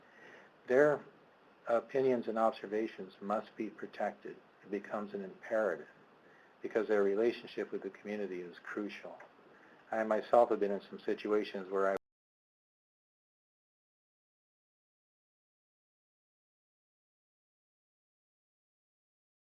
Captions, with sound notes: because they took a particular side. Their opinions and observations must be protected, it becomes an imperative, because their relationship with the community is crucial. I myself have been in some situations where... (Audio cuts out)